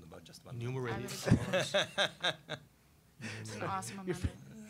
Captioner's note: laughing